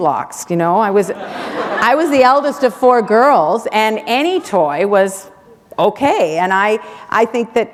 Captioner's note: laughter